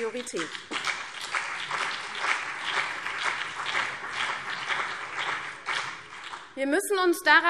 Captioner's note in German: Beifall CDU und BÜNDNIS 90/DIE GRÜNEN